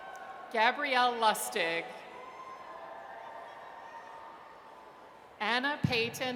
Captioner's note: audience cheers